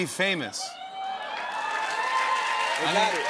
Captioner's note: cheers and applause